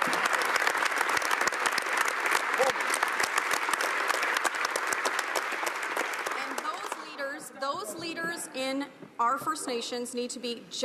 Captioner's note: some applause